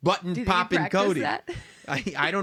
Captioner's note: laugh